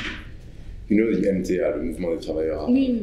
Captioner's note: french